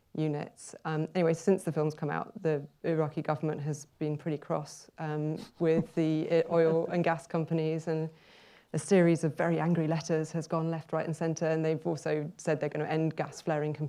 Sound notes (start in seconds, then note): 8.2 inhales